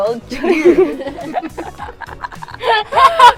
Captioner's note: laughs